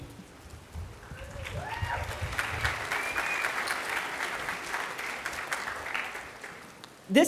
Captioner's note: applause